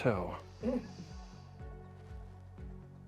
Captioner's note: crew suppressing laughter; gentle tense music